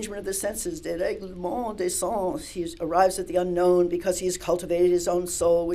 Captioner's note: french